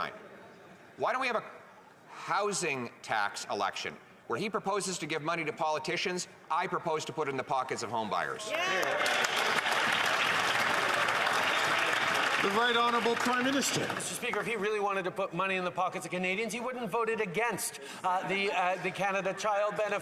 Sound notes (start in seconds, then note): 12.6 some Applause